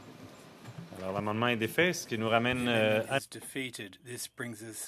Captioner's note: speaking French